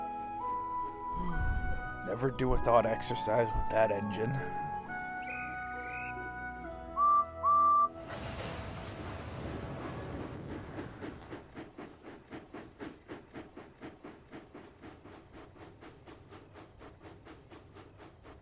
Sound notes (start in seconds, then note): 4.9 edward whistles; 4.9 guard blows whistle